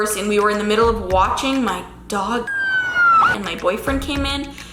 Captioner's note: siren wailing